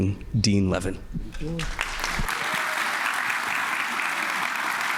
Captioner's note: applause